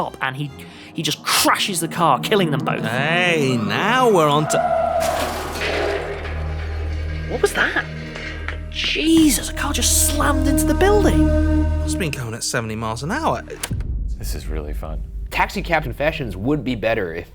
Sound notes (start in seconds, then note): 4.6 tires squealing; 4.7 metal clatters